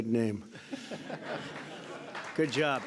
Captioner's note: laughter and applause